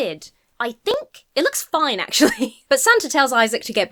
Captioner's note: chuckles